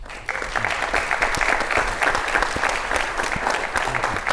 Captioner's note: audience applauds